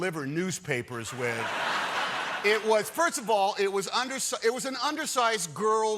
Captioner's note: laughter